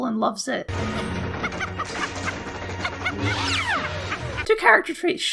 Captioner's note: evil laughter